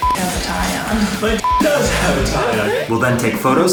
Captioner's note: beeps